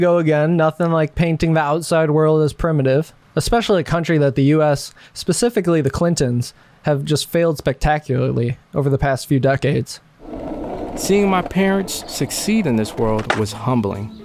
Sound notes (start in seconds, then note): 10.2 skateboard gliding; 11.1 male Voice